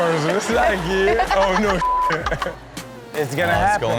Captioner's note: beep; Chanel giggles